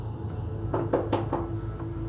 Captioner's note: knock on door; dramatic music